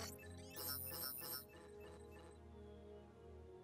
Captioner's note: Bastion's computer beeps; faint beeps from computer; computer buzzing